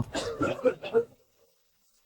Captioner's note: cough, cough, cough